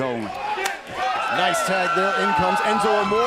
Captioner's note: crowd cheering